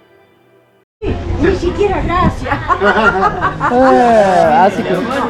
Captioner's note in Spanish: Risas